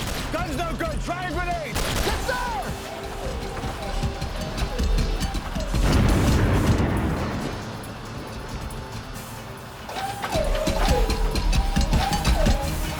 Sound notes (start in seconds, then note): 1.8 gunshot